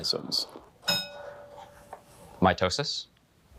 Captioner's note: bell dinging